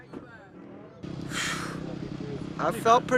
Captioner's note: people talking